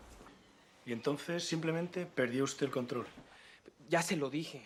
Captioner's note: spanyol